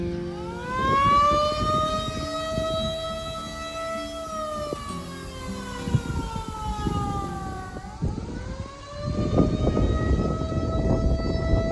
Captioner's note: constant loud siren noises